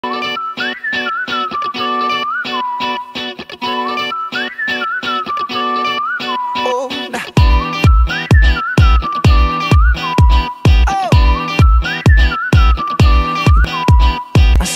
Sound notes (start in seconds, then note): 0.0 psychotic whistling